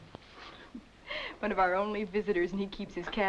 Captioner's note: chuckles